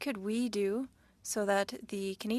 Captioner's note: speaking French